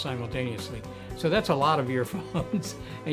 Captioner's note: chuckling